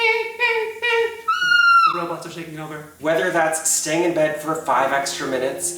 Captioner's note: screams